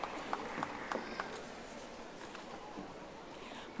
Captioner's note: audience applauding